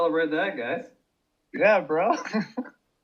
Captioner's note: laughs